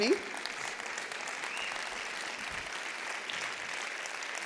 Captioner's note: applause